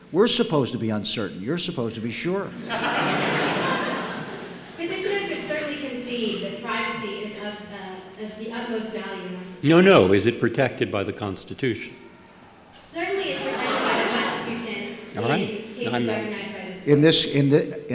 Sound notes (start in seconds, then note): 2.5 laughter; 12.1 crowd cheering outside; 13.3 laughter